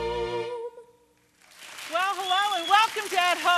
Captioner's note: audience applauding